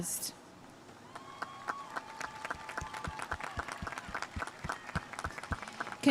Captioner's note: audience cheering and applauding